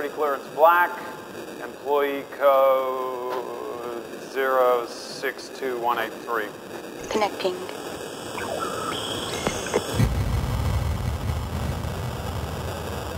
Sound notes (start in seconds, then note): 7.5 automated voice; 9.5 pulsating brown noise